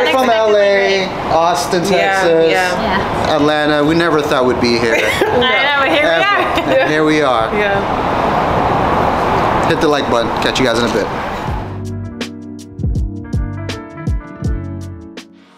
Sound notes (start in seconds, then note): 4.8 laughs; 11.4 soulful music